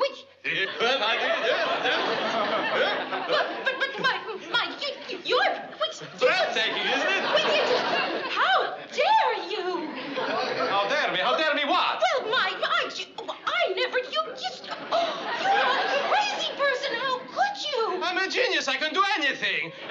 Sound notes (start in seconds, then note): 15.0 gasp